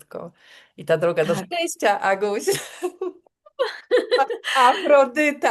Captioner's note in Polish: śmiech